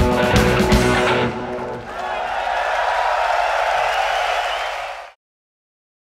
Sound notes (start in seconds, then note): 1.0 audience cheering; 1.0 audience clapping